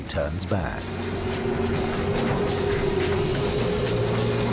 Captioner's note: wind howling